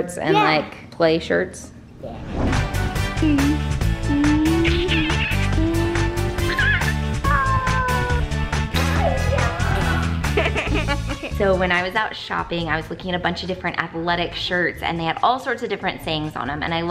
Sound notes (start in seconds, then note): 3.2 playful music; 10.5 laughing